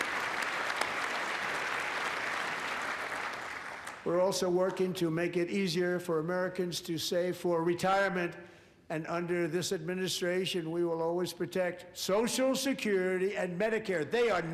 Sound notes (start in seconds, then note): 4.8 applause